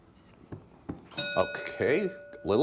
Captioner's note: bell dinging